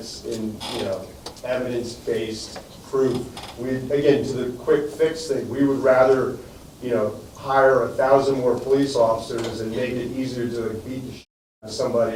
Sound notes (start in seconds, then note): none